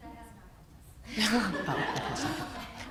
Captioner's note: laughter